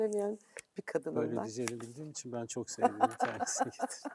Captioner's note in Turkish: kahkaha